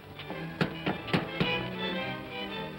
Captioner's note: upbeat music; knocking on door; upbeat music